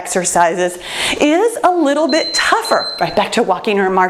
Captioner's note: timer beeps